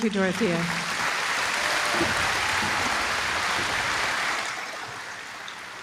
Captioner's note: applause